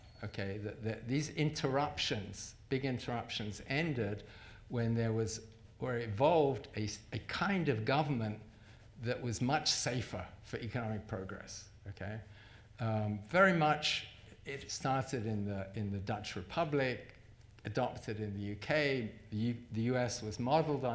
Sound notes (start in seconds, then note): none